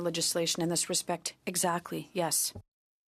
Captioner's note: speaking French